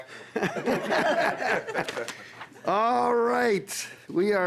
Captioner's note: laughing